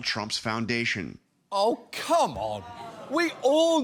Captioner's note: audience groans